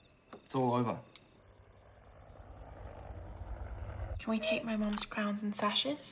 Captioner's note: whirring